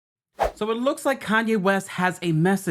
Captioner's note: swooshing